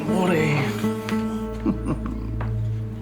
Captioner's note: chuckling